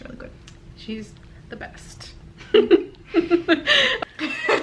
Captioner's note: both giggle